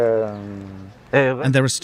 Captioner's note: speaking french